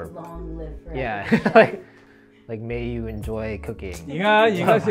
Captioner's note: laughs; laughs